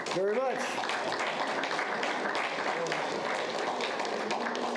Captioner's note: audience applauds